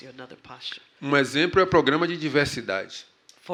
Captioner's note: speaking portuguese